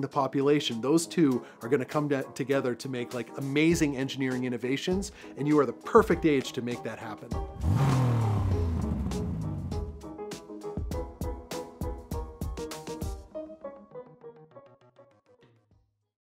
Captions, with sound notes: population, those two are gonna come together to make, like, amazing engineering innovations, and you are the perfect age to make that happen. [Engine rev] [Curious music]